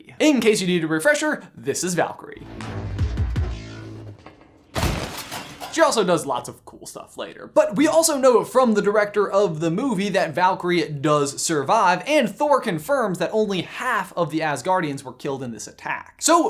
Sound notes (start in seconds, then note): 2.4 electronic music; 4.9 loud crash